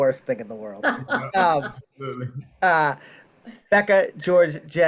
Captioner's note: laughing